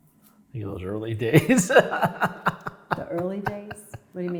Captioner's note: chuckles